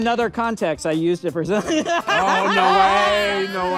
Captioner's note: laughing